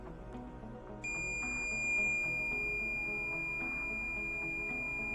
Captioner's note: long beep